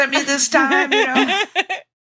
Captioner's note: laughter